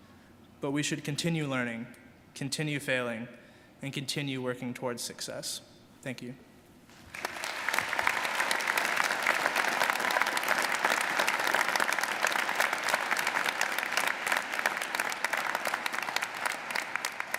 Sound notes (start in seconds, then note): 7.3 audience applauding